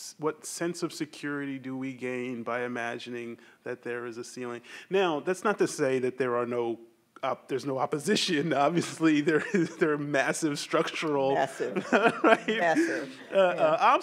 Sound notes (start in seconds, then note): 8.2 chuckles; 11.4 laughs